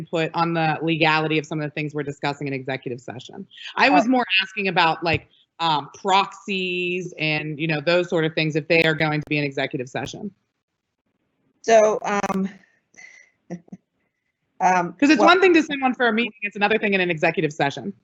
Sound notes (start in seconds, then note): 12.6 chuckles